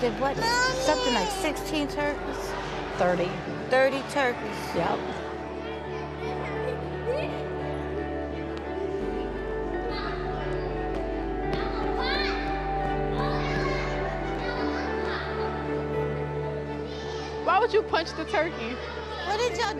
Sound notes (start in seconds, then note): 5.7 soft music; 8.7 children playing